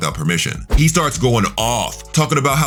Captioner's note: air whooshing